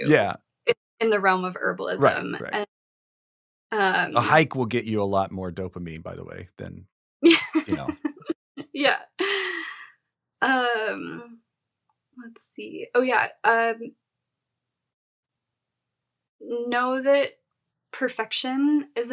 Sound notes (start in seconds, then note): 7.3 chuckles